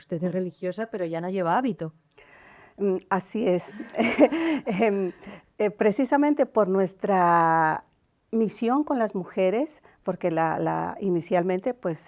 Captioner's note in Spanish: risas